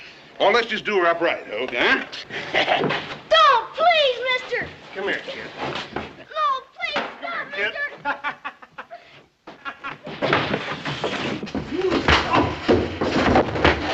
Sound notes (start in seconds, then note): 2.3 Bert laughs; 7.8 men laughing outside; 11.8 wack!